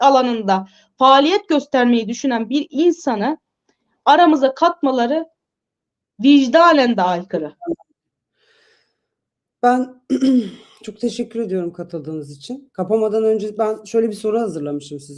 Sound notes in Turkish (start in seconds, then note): 10.0 boğazını temizler